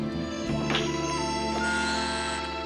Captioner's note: intercom buzzes